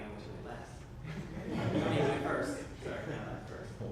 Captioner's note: audience laughs